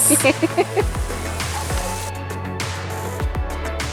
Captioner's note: laughs